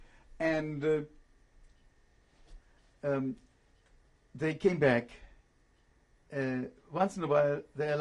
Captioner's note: pauses for 3 seconds